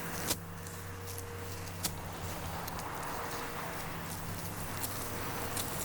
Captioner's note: car noises and foot steps